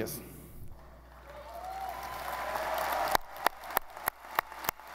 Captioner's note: audience applauding